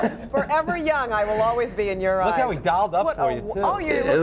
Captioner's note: laughter